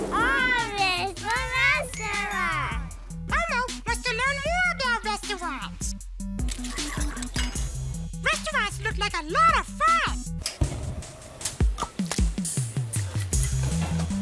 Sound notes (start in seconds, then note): 10.6 flame hissing; 12.0 eggs squelching